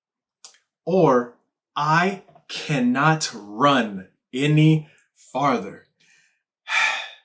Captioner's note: exhales sharply